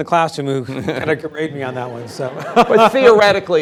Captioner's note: laughing